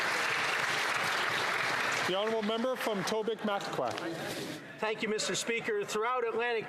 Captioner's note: applause